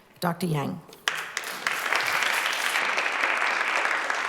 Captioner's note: applause